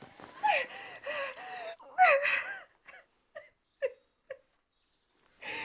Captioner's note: sobs